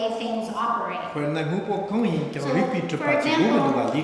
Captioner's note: speaking tibetan